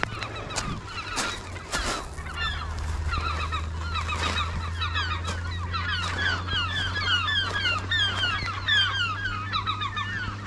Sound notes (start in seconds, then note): 0.5 seagulls calling; 3.1 walking on rocks